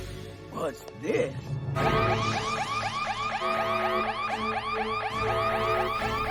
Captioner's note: alarm sounding